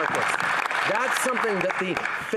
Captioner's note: applause